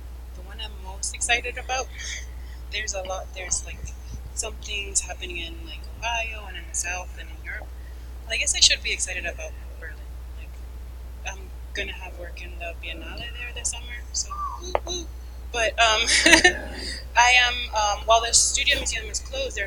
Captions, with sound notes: - The one I'm most excited about, something's in happening in Ohio, and in the south, and in Europe. Well, I guess I should be excited about Berlin. I'm gonna have work in the Biennale there this summer, so woot woot. (laughing) While their studio museum is closed,